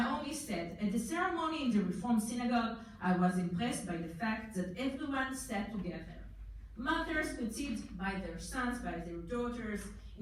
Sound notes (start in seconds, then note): none